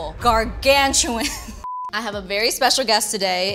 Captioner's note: high-pitched tone